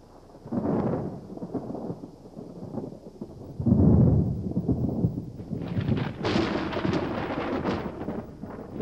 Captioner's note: thunder